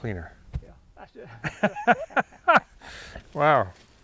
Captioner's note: chuckling